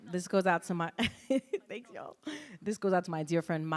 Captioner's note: laughs